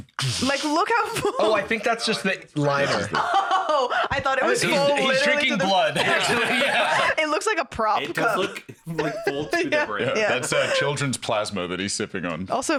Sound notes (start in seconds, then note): 5.6 laughing